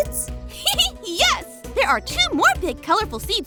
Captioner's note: laughs